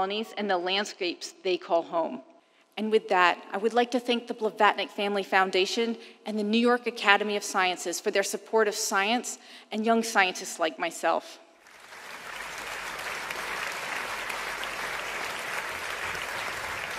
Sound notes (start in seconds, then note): 11.6 applauding